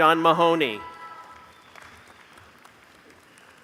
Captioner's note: applause